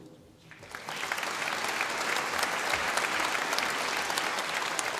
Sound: audience applauding

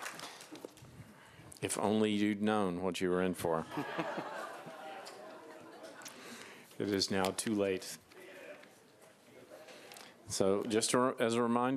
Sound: applause

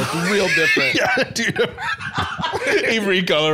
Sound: laughing

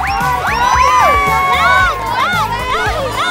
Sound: cheering like a real fan!

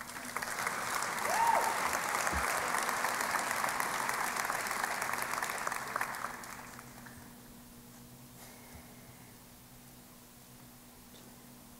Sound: applause

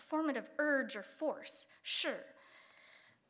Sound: speaking Chinese

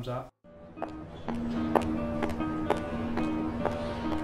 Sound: footsteps

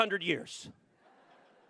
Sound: laughter

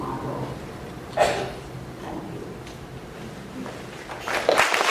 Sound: applause

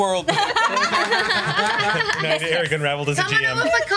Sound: laughs

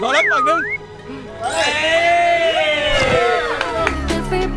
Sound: mocking; romantic music playing

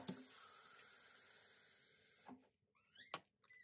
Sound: faucet running

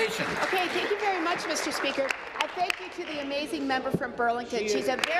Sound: applause

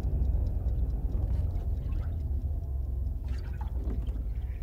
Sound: liquid sloshes

